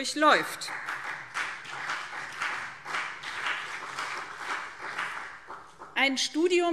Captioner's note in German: Beifall BÜNDNIS 90/DIE GRÜNEN und CDU